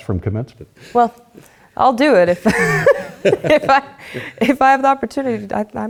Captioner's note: laughs